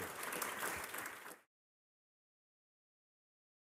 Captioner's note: applause